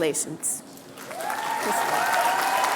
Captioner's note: applause